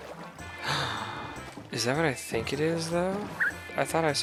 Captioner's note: gasp